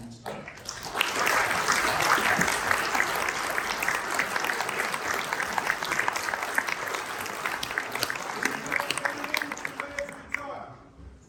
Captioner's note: applause